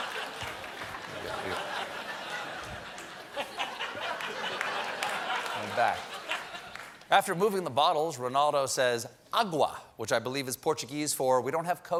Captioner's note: laughter